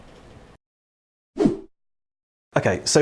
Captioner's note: air whooshing